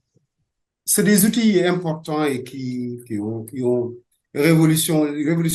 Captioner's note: speaking French